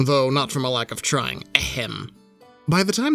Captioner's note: clears throat